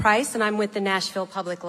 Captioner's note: none